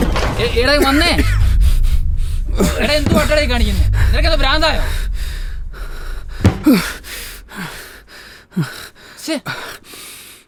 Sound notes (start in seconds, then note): 6.5 heavily grunts